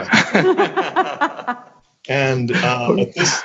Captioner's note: laughing